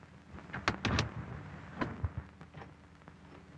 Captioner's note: knocking on door